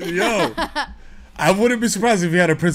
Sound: laughs

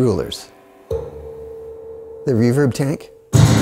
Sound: low chime

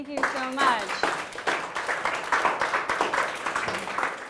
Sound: applause

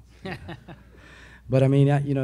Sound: a few laugh

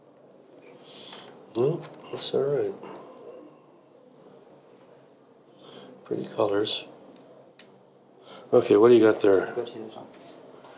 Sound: sighs

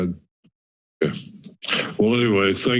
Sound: pause

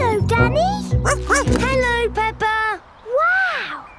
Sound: snorts; barks

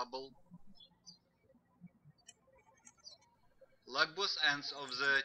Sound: birds chirping

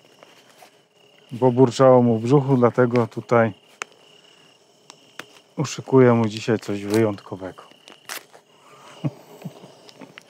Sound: laughter

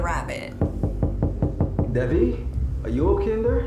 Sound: muffled through door

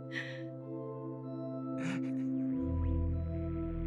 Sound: sobbing

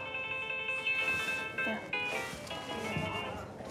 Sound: cell phone chimes

